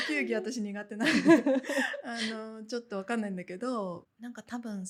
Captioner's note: laughs